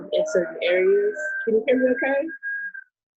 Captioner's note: sirens in background